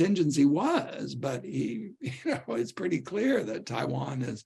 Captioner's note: laughter